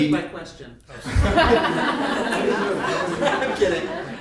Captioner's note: audience laughing